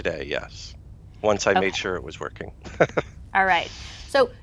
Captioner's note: laughs